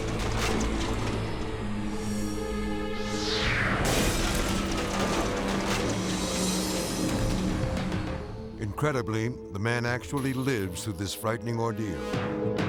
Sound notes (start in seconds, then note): 0.2 mysterious music; 3.9 engine bangs